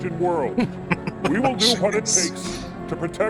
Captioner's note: laughing